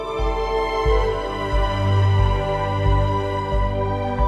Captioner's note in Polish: Aplauz